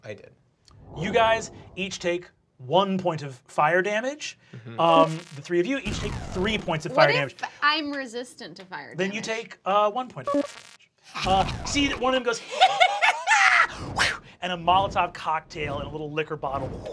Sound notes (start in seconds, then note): 12.5 laughing; 13.2 whooshes; 16.4 whooshes